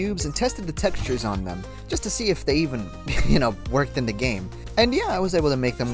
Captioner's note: chuckle